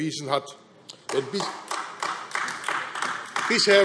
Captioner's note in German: Beifall AfD